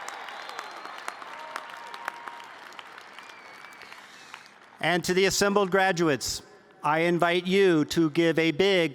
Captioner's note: cheers